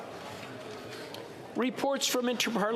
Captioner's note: speaking French